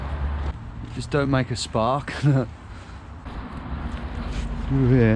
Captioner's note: chuckles